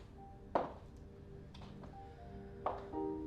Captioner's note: footsteps on wooden floor